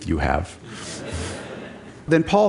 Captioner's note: Laughter; 笑聲